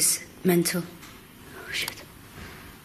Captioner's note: clicking